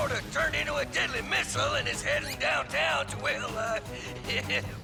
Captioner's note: nervous chuckle